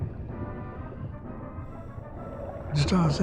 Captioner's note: bubbles burbling